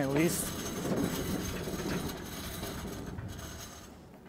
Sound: metal scraping

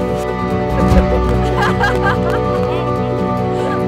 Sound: laughs; laughing

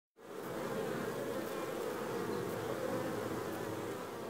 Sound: flies buzzing

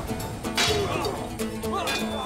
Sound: Kılıç sesleri

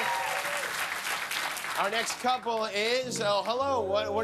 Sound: cheers and applause

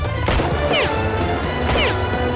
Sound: gunshot

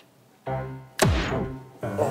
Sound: smack

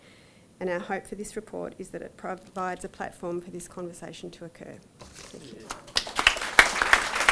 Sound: applause

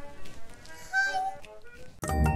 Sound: small, squeaky voice

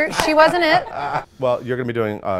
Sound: laughs

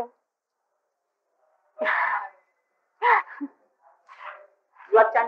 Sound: laughter

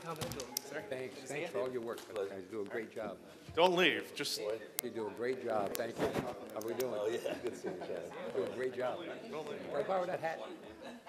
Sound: laughter

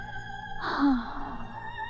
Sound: sighs

